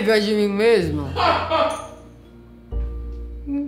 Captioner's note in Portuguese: uma risada solitária